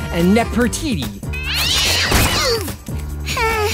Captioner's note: cat screeching